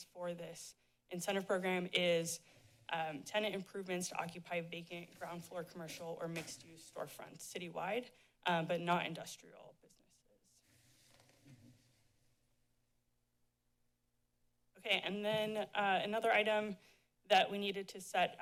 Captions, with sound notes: for this incentive program is, um, tenant improvements to occupy vacant ground floor commercial or mixed use storefronts citywide, um, but not industrial businesses. [silence] Okay. And then, uh, another item that we needed to set